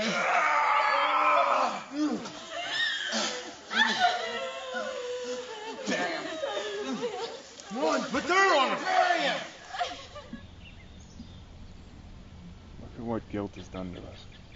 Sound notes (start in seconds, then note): 0.1 yelling; 3.9 women crying